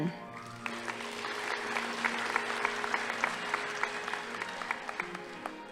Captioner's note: audience applauding